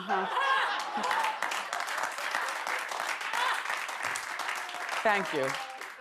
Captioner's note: audience laughter and applause